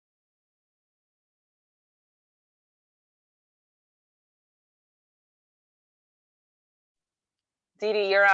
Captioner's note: no sound